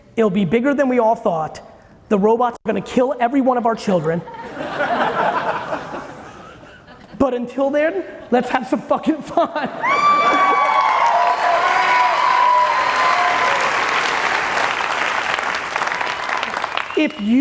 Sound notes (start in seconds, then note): 4.3 audience laughing; 9.8 audience cheering and applauding loudly